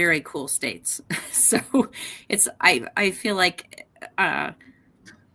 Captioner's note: chuckles